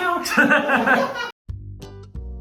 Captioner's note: laughter